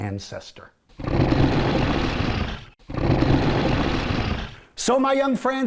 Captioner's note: dinosaur growls